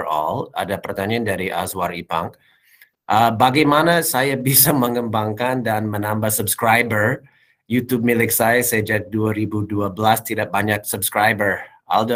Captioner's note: non-english speech